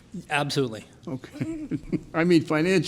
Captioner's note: laughs